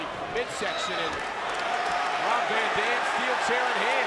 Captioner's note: crowd cheering